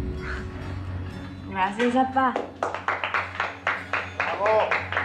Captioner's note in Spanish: Aplausos